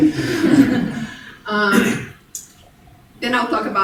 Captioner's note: congregation laughing